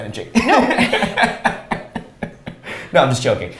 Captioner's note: both laughs